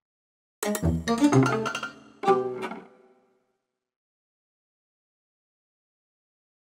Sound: upbeat music; machinery clanking

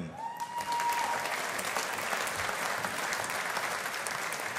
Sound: audience applauding

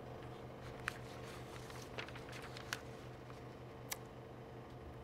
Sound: paper rustling

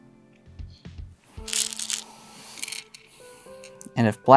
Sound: stones rattling

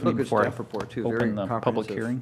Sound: laughter

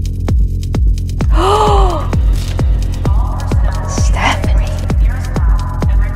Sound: gasppp

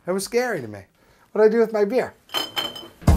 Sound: hits glass bottles

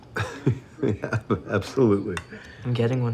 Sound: chuckles

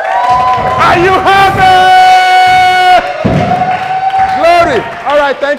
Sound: ovation

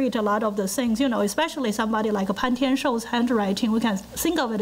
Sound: foreign language

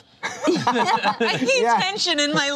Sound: laughter

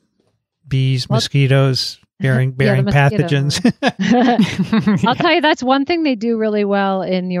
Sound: chuckle

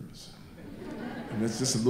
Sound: audience laughing

